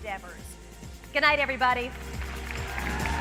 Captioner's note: applause